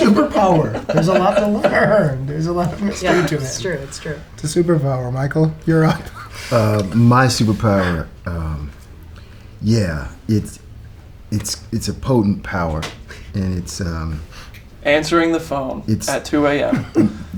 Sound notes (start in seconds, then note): 5.7 laughs; 16.7 laughter